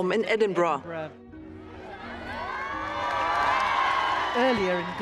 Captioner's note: crowd cheering